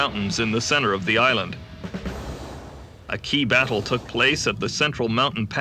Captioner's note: explosions; guns firing